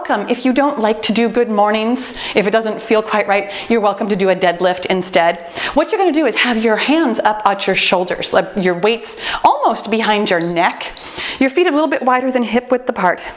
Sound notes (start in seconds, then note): 10.4 timer beeps